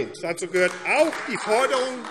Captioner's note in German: Beifall AfD